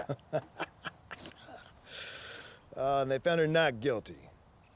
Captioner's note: laughing